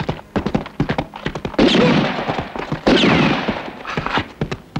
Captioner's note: gun firing